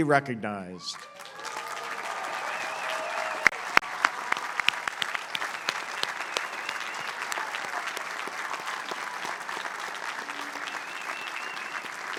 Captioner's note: applause